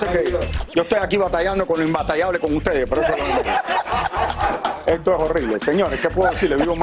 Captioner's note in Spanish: risas